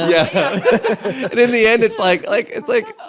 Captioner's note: laugher